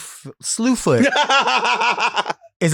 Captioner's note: Sapphira laughs